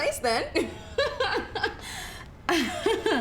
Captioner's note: forced laughter